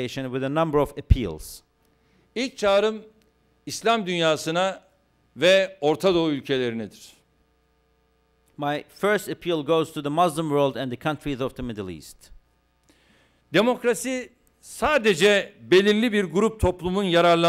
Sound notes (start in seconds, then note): 3.6 non-english speech; 15.0 non-english speech